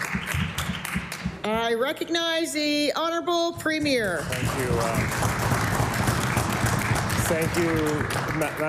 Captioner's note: applause